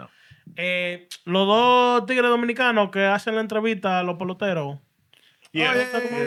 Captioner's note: speaking Spanish